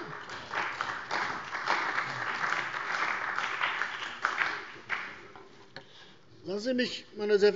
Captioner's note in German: Beifall bei der CDU und dem BÜNDNIS 90/DIE GRÜNEN